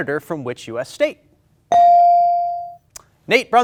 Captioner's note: ding chimes